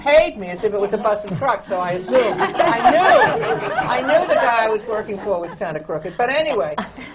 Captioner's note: laughs; laughter